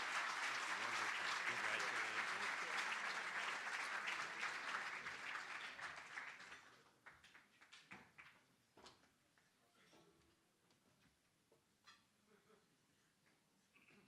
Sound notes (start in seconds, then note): 0.0 cheering & Applause